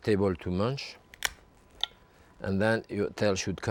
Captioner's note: lobster cracking